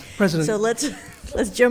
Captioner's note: chuckles